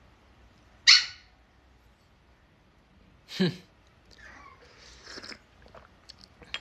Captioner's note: puppy squeak